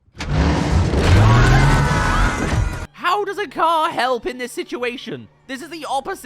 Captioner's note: car